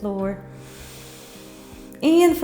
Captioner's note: inhales